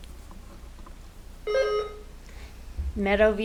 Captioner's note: buzzer ringing